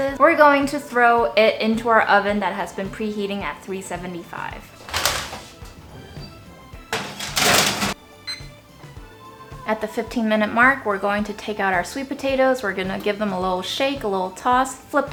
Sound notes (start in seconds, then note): 8.2 timer beeps